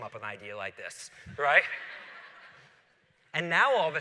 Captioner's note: laughter